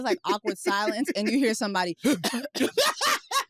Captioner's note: coughs